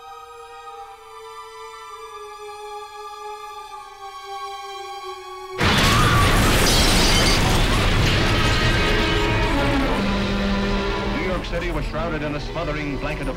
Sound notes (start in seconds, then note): 5.6 glass breaking; 5.6 crashing